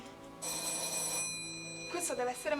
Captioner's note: doorbell